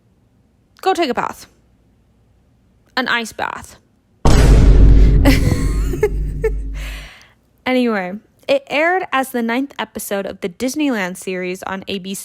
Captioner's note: Vine Boom